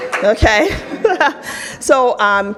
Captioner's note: audience applauds; laughs